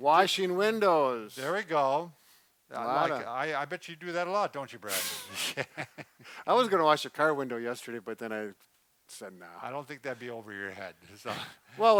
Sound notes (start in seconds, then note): 4.9 laughs